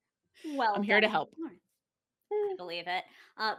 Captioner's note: chuckles